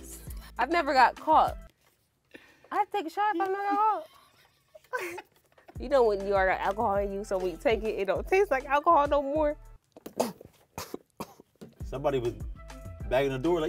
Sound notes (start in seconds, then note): 3.8 both laughing; 10.0 choking